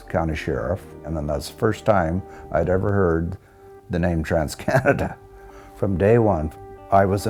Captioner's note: laughs